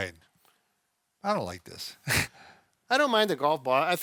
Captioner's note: laughs